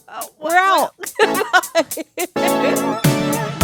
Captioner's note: both laughing; upbeat music